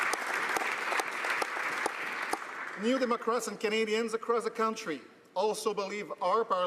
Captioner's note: applause